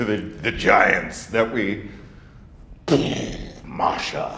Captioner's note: grunts